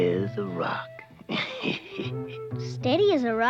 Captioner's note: laughs